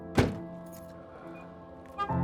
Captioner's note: car trunk slams; keys jingling; car beep